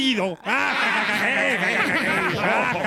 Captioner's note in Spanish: laughs